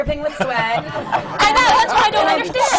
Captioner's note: laughter